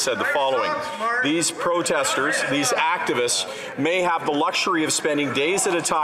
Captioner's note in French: voix de l'interprète